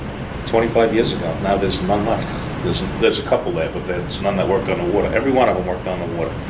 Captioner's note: laughs